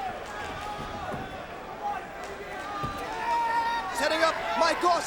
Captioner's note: crowd vocalizing